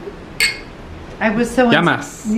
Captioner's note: glasses clinking